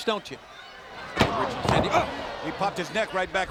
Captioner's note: wrestlers thudding